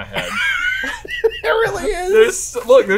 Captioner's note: laughs